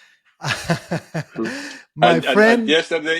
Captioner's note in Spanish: Risas